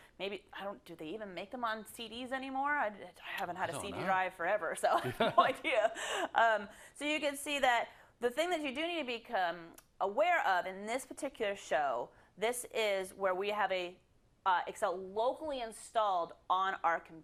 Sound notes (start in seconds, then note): 3.6 laugh